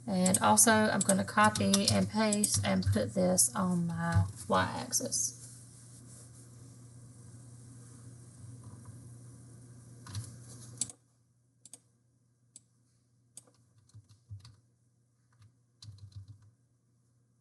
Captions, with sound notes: and also I'm going to copy and paste and put this on my Y-axis. [mouse clicking]